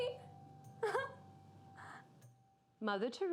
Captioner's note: chuckling